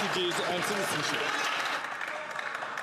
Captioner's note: some Applause